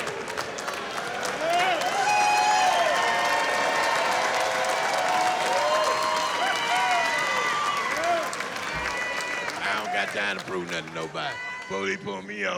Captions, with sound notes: [cheering] I don't got time to prove nothing to nobody.